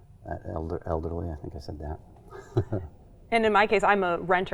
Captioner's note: laughing